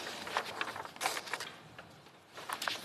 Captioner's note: speaking French